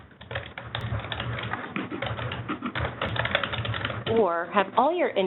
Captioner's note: keyboard clicking